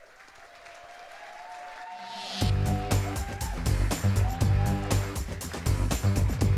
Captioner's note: applause